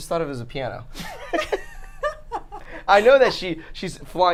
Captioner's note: laughing